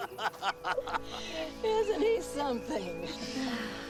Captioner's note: group laughing